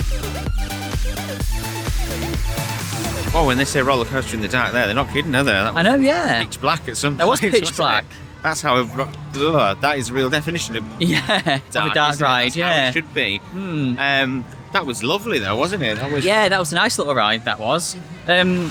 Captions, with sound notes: [Crowd noise] Well, when they say roller coaster in the dark there, they're not kidding, are they? I know, yeah. That was pitch black at some point. That was pitch black. That's how - That is a real definition of dark. Yeah, dark ride, yeah. that's how it should be That was lovely though, wasn't it? Yeah, that was a nice little ride, that was.